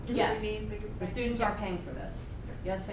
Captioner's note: voiceover